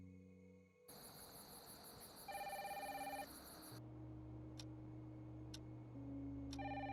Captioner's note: insects chirping; phone ringing